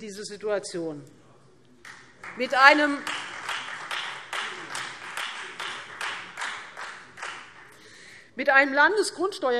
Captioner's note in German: Beifall Freie Demokraten